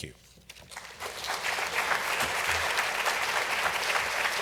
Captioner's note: audience clapping